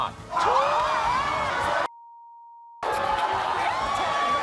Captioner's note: crowd cheering